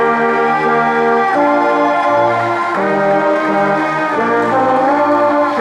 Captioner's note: crowd applauding